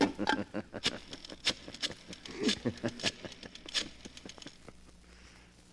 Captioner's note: laughter